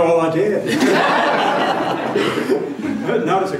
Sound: laughter

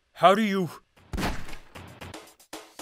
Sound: gunshot

